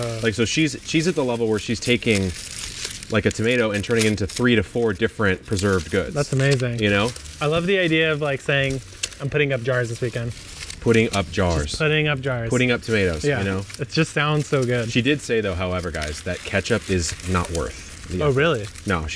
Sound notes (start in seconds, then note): none